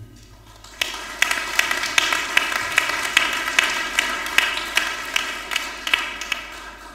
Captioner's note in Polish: oklaski